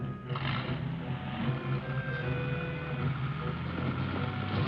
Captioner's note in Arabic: محرك السيارة يدور